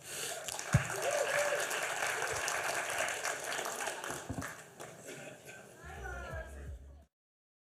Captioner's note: applause